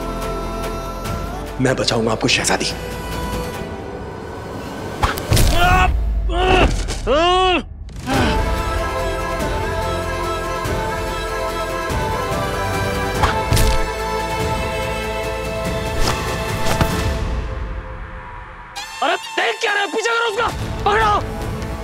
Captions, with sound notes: I will save you, Princess! - [thwack] - Ah! Ouch! [euphoric music playing] [thwack] [smack] Don't just stand there! Go after her! Get her!